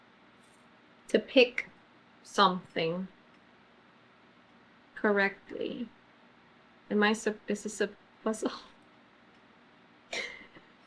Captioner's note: laughs